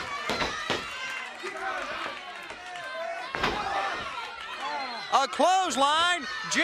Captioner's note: crowd chatter